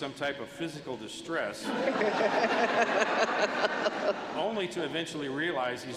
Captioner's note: laughter